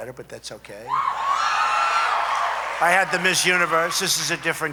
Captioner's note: applause